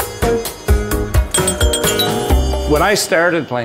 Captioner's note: pinball machine chimes